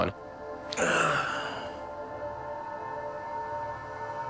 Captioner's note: sighs